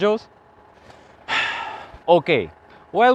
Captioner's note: sigh